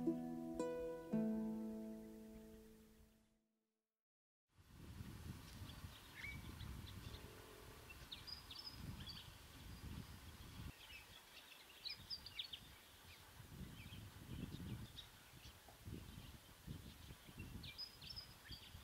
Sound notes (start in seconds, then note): 3.7 bird sounds